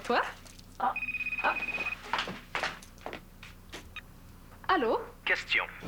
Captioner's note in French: Le téléphone sonne